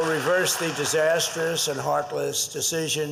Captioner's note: applause